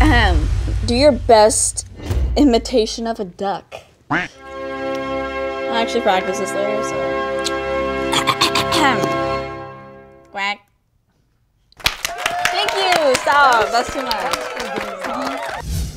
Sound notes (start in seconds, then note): 0.2 clearing throat; 4.1 duck quacks; 4.3 suspenseful music; 9.0 clearing throat; 11.7 clapping